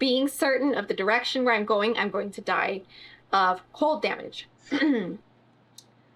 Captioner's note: clears throat